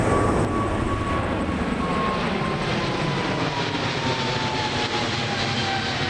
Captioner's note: plane engine revving